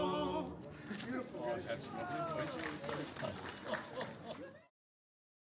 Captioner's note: applause